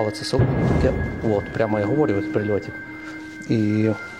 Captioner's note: sound of explosion